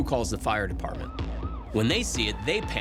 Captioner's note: siren wailing